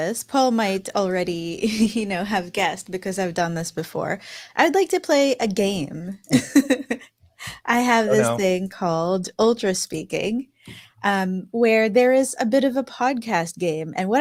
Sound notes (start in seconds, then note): 8.0 laughing